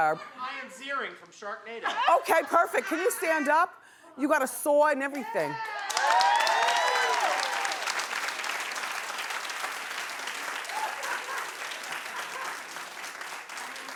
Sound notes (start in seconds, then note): 5.5 cheering; 10.6 laughing